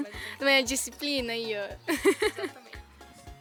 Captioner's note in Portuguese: risos